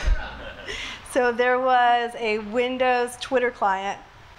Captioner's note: laughs